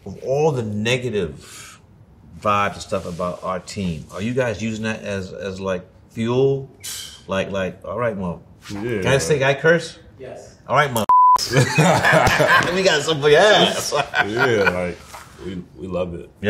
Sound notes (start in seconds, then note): 11.0 beeps; 14.0 laughs